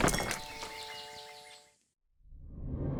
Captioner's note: birds chirping